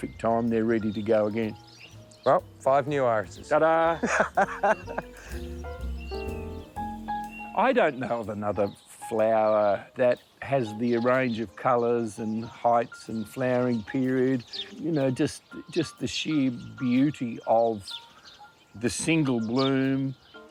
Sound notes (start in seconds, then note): 3.9 laughs